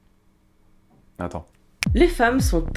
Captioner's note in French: claque des doigts